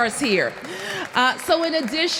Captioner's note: applause